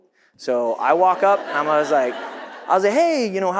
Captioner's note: audience laughs